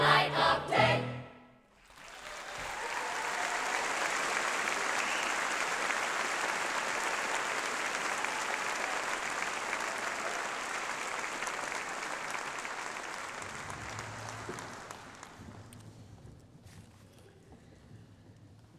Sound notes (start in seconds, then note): 1.7 applause